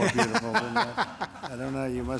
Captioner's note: laughter